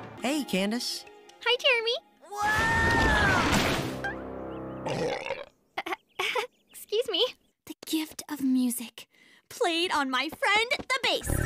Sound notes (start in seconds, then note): 4.8 belches loudly in front of her crush; 5.8 embarrassed chuckle